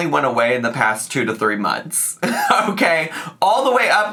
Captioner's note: laughs